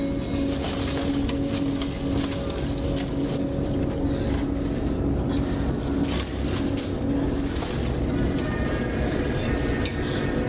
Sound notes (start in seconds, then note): 0.0 ominosa de la música; 0.0 susurro de las hojas